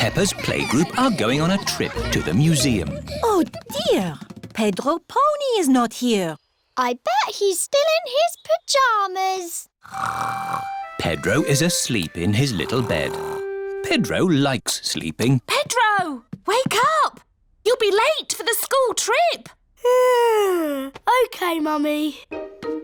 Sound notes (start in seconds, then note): 9.8 snores; 19.8 yawns